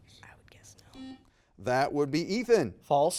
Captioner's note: buzzer beeping